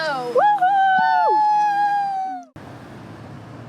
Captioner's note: cheering